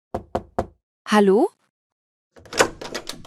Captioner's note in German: klopft an die Tür